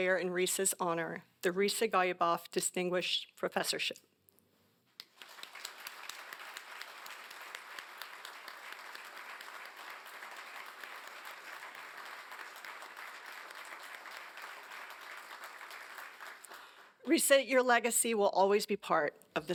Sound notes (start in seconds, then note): 3.6 applause